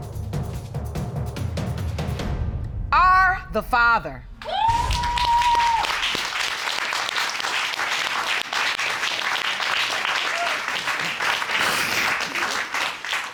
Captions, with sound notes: are the father." [cheers and applause] [sobs]